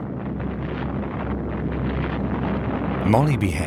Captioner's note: explosions booming